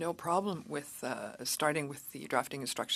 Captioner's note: speaking French